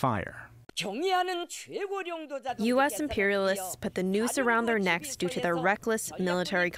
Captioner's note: through translator